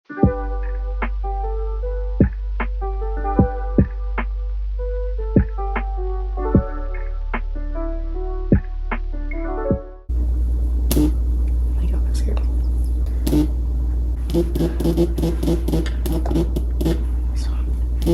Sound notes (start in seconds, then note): 0.1 outro music plays; 10.9 phone buzzes; 14.2 phone buzzes multiple times